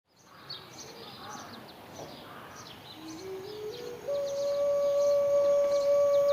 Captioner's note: outdoor noises, birds chirping; native flute music plays